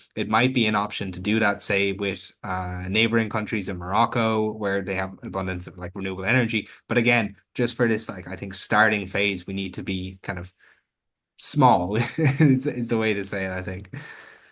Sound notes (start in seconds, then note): 12.0 chuckles